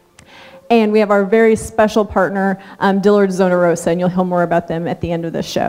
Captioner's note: none